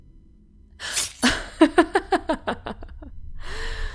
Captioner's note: A sharp gasp, a slashing noise as she laughs